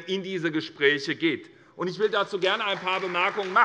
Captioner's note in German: Beifall SPD und Freie Demokraten